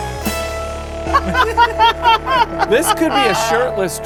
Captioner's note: laughing